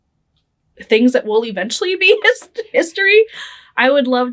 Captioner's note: laughing